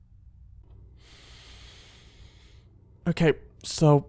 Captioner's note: deep breath